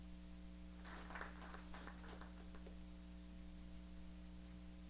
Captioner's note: applause